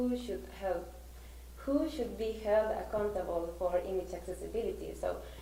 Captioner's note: none